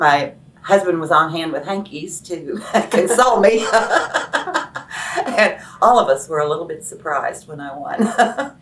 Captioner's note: laughs